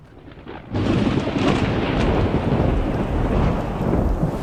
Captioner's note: roar of thunder